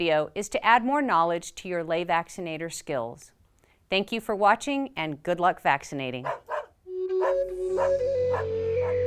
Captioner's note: dog barking